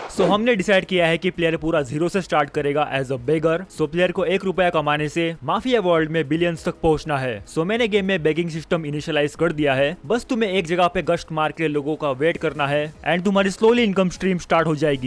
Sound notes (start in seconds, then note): none